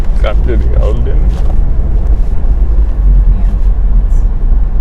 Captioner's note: speaking in foreign language